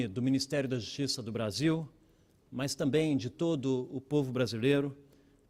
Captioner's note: speaking Portugese